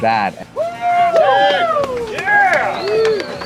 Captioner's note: drunken cheering